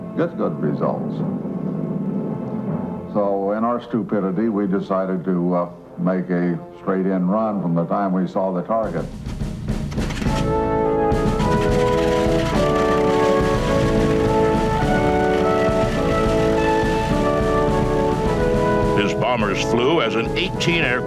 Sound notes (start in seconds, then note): 9.5 engine turning over